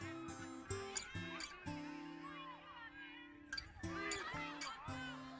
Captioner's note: people shouting